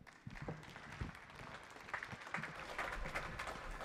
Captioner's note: audience clapping